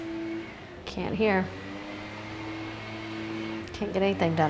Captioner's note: machine whirring